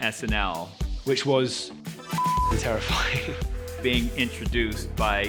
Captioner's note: beep